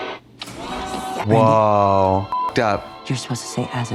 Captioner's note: beep